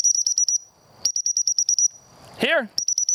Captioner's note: whistle blows